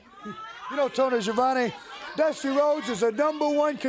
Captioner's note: crowd chatter